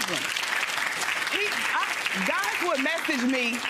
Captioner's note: audience applause